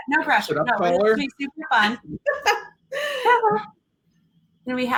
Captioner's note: laughing